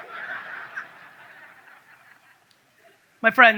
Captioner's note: audience laughs